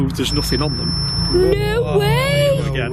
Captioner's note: energy detector device beeping and whistling